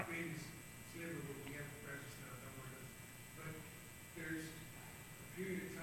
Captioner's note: speaking off mic